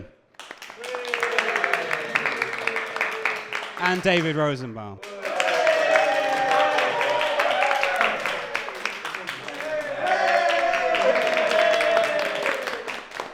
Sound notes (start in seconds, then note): 0.3 cheering and applause; 8.4 cheering and applause subsides; 10.0 cheering and applause rises